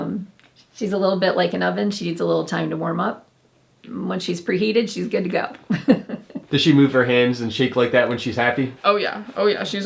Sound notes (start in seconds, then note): 5.6 mother laughing